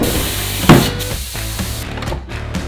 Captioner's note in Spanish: La máquina haciendo pssst pssst